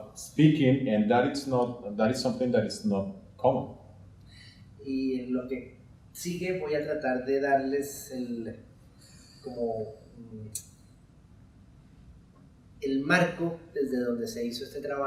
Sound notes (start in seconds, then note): 4.9 speaking in Spanish